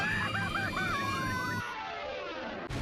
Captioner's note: screaming